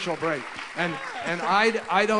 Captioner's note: applause and laughter